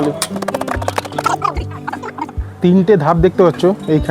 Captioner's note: sound of pipes being fitted